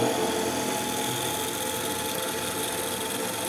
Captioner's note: loud rattling of the machine